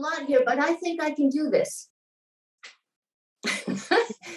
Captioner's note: laughing